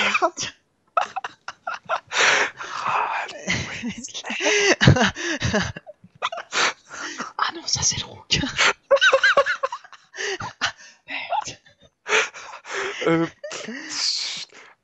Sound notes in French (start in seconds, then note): 1.0 rire; 3.9 rires au éclat; 8.8 Rires